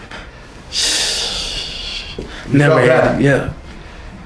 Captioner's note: laughing